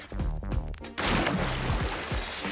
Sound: splash!

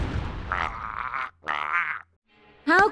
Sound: gurgling

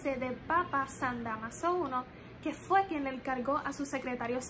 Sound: spanish

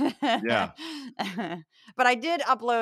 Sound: laugh

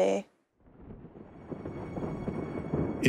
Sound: thunder

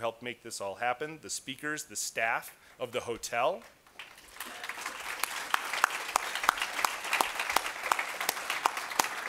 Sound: applause

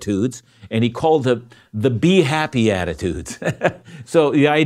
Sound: laughs

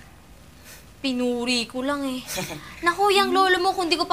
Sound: Rowie laughs

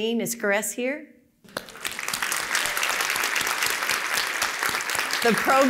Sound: applause

